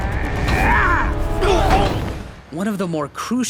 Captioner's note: grunting; groaning